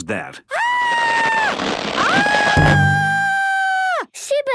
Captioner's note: screaming